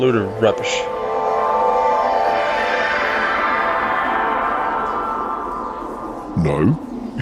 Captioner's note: teleportation sound